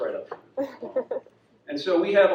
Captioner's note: audience laughs